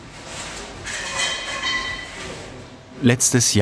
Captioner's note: rattling in the background